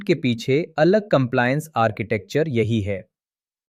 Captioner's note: thoughtful